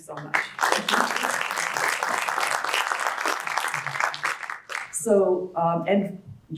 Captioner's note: applause